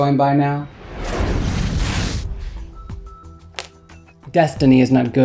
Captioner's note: air whooshing